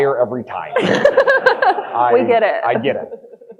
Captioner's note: audience laughing